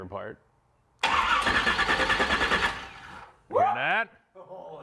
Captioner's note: engine revving